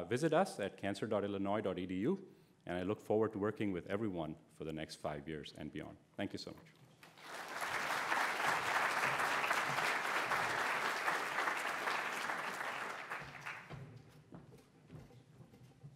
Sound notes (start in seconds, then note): 9.0 audience applauds